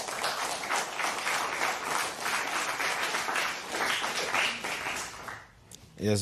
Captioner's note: applause